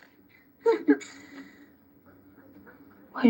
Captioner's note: laughing